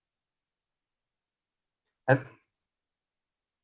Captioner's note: lost sound